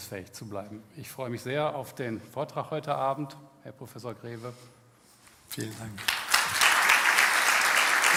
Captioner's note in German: applaus